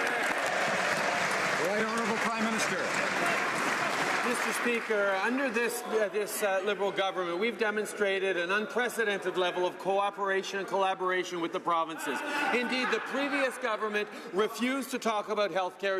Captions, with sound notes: GOVERNMENT, ADOPT THOSE EXACT SAME POLICIES? (APPLAUSE). >> HONOURABLE PRIME MINISTER? >> Mr. SPEAKER, UNDER THIS LIBERAL GOVERNMENT WE DEMONSTRATED AN UNPRECEDENTED